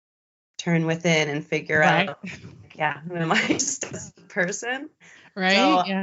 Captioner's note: giggles